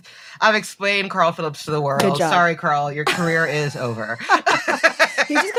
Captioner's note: they laugh